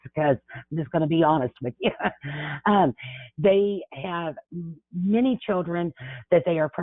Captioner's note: chuckles